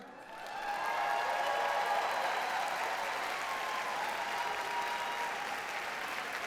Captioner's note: audience cheers and applauds